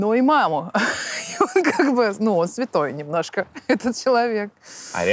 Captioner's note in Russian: смеется